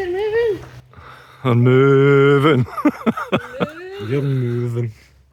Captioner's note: laughter